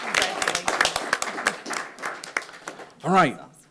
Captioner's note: audience applauding